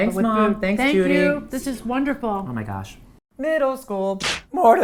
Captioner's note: voice cracks